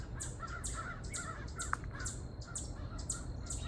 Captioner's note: crows caw & birds sing